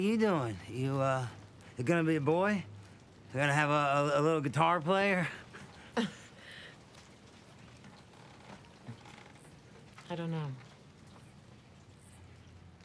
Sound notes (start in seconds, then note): 5.2 laughs